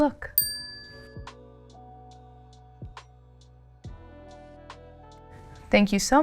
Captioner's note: bell dings; mellow music